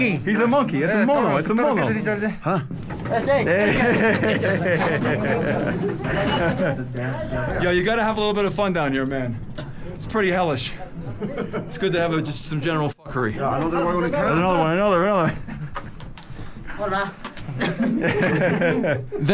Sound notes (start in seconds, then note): 2.7 speak in foreign language; 13.8 people chattering; 17.4 people chuckling